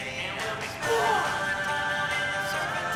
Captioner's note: yells